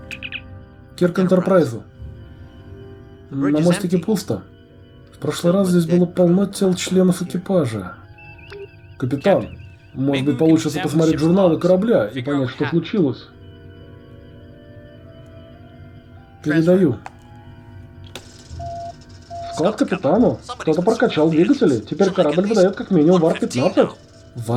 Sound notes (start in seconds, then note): 18.5 comm beep